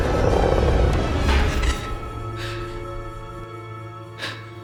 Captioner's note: speaker growls; Rachel gasps